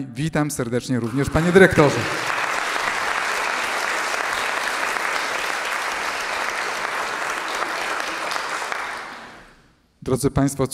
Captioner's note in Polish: aplauz